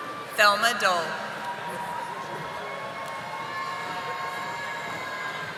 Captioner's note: audience applauding